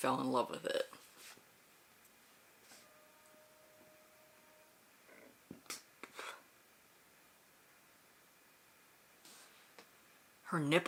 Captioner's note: silence